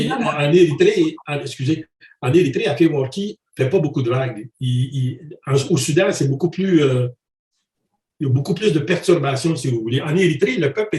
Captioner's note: protests